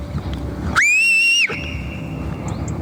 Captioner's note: loud whistle